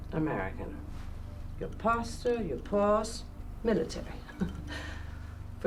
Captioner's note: chuckles